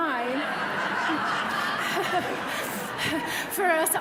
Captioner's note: audience laughing